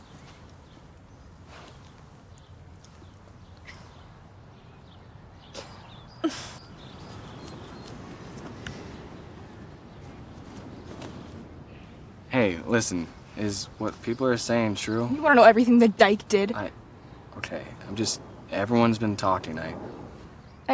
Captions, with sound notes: (birds chirping) - Hey, listen, is what people are saying true? - You want to know everything the dyke did? - I, okay, I'm just, everyone's been talking about it.